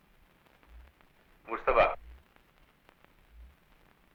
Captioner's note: non-english speech